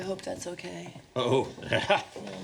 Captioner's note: laughs